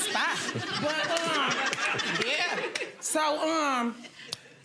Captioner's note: audience laughs